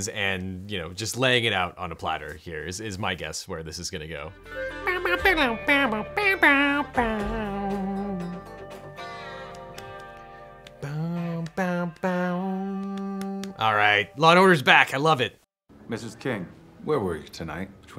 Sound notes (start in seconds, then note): 5.0 humming "Law & Order" theme song